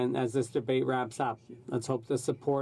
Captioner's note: speaking French